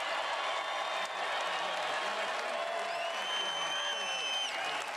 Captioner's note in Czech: Potlesk